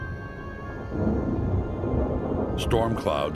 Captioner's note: thunder